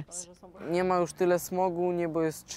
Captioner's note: speaking russian